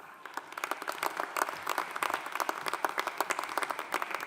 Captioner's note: audience applauding